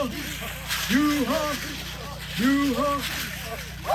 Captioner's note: chanting